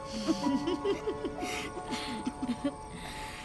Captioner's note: both chuckling